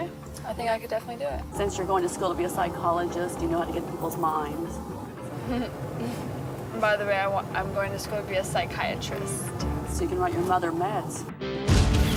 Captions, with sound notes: - OKAY. I THINK I CAN DEFINITELY DO IT. - SINCE YOU'RE GOING TO SCHOOL TO BE A PSYCHOLOGIST, YOU KNOW HOW TO GET AT PEOPLE'S MINDS. - [giggles] BY THE WAY, I WANT-- I'M GOING TO SCHOOL TO BE A PSYCHIATRIST. - SO YOU CAN WRITE YOUR MOTHER MEDS.